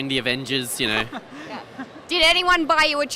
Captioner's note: laughing